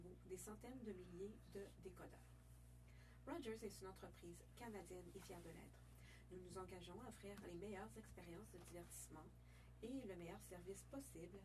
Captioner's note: speaking French